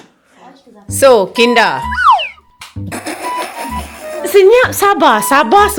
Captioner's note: laugh